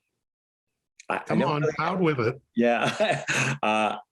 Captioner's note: laughs